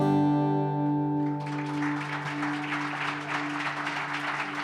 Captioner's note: audience applauding